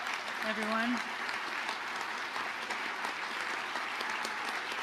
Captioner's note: audience applauding